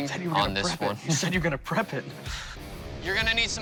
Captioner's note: laughs